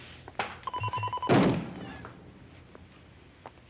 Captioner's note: beeps; thuds